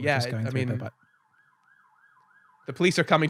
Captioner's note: police Siren